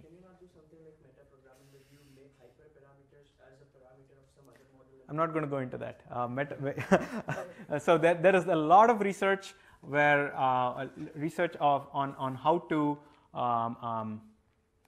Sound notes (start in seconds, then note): 6.7 laughter